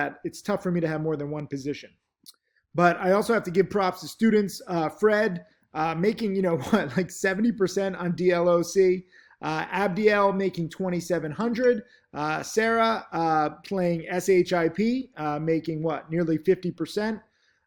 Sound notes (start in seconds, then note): 6.6 laughing